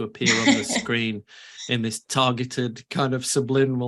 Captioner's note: laughs